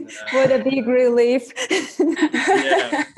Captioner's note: laughs